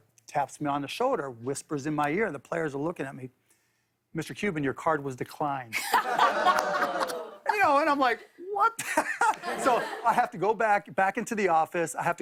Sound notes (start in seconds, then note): 5.7 laughter; 6.1 audience ohs; 8.8 laughter